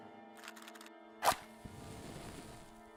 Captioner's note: match strikes